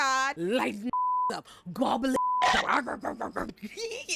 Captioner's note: beep